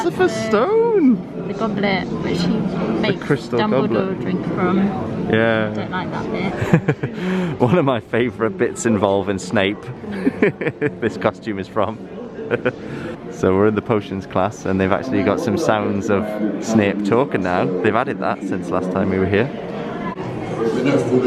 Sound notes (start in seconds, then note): 10.1 laughs